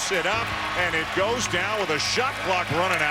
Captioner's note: crowd cheering